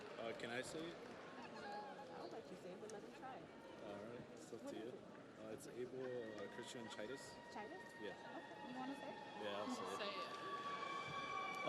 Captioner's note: audience cheers